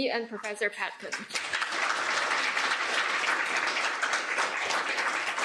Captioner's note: applause